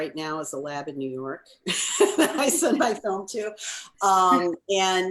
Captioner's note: laughs